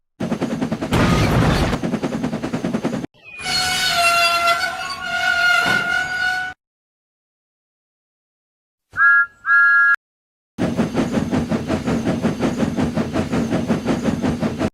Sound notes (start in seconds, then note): 0.3 very Fast Chuffing; 8.9 Thomas blew his Whistle; 10.6 chuffs Away